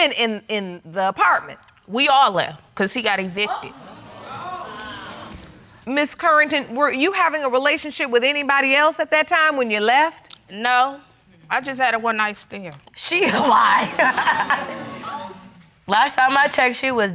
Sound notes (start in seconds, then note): 3.7 audience exclaiming; 13.3 laughing